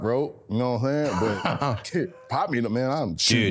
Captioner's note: Cody laughing